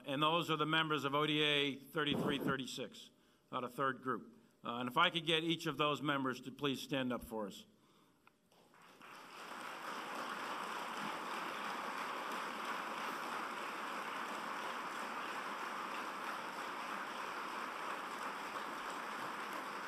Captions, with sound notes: And those are the members of ODA 3336 out of Third Group. And if I could get each of those members to please stand up for us. [APPLAUSE]